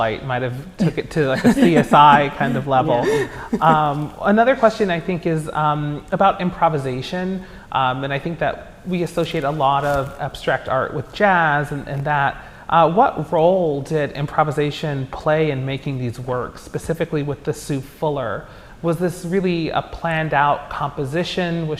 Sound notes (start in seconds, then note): 1.2 laughing